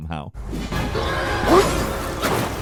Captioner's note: characters grunting; swords clanking